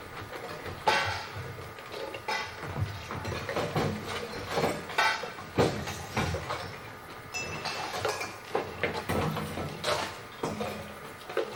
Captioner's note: items clang together